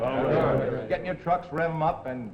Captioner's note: men murmuring